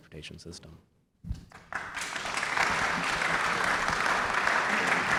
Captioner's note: audience applauding